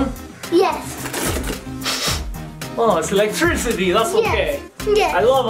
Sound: sniffing

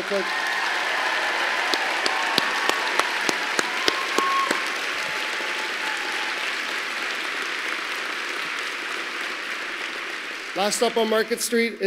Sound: applause

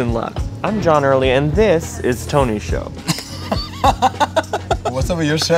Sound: laugh

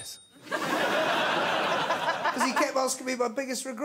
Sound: crowd laughs

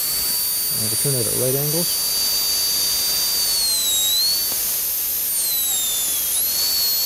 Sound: drilling sound

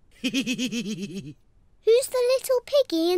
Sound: laughs

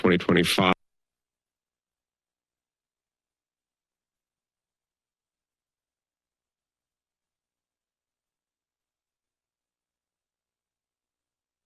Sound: silence

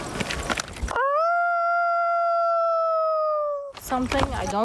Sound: howling

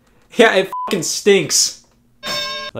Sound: beep

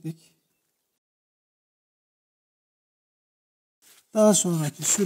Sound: sounds of the knife and bird sounds

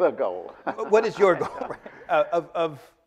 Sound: laughing

